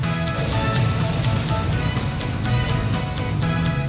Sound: thunder Continues

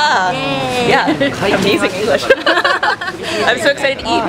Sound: both laugh

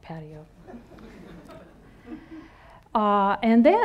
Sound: audience laughing

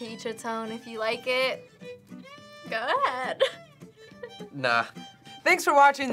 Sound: laughs

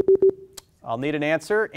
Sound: warning bleep

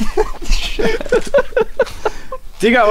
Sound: laugh

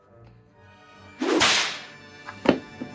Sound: whip crack

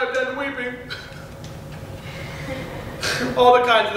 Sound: sobs

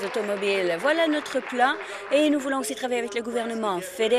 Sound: applause

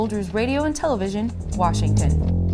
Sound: clock ticking; bass guitar playing

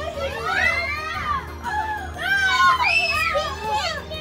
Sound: screams of alarm

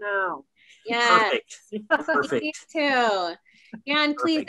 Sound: laughs

